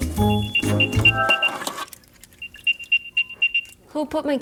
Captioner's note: device chimes